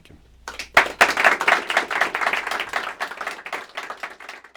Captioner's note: applause